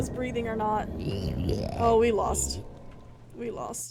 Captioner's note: guttural Noises